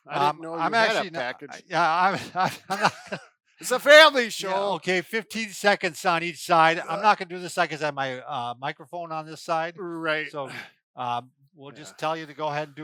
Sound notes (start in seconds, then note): 0.1 laughs